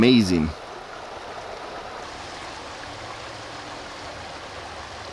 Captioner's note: water raging